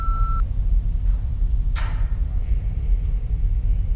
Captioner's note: terminal beeping